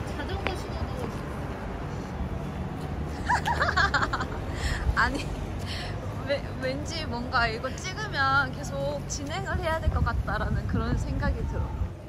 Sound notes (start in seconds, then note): 3.2 laughing